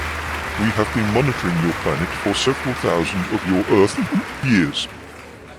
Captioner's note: laughs